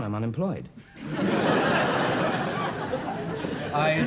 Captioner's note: audience laughs